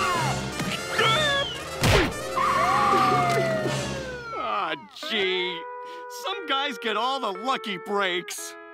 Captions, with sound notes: [screaming] [sirens blaring, crying] Aw gee, some guys get all the lucky breaks.